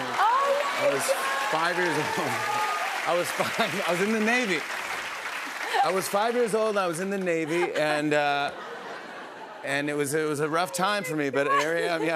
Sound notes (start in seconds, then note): 7.4 laughter